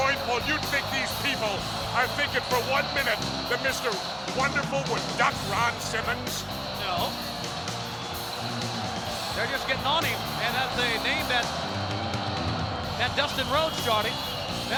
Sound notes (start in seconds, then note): 7.8 spectators cheering; 7.8 upbeat music